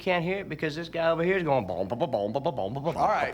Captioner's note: imitates bubbly bass line